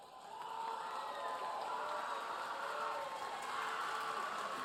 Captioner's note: audience applauding